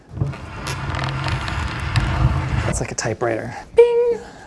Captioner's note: table scratches on the floor